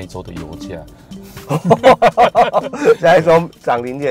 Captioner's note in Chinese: 哈哈哈